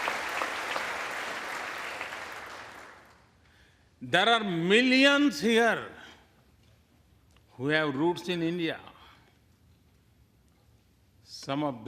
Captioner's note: applause